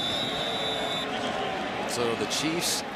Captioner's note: whistles